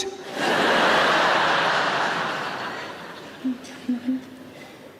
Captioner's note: audience laughing